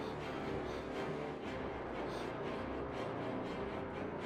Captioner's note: breathing hard